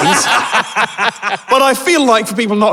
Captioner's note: others cackling